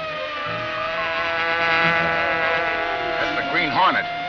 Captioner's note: bee buzzing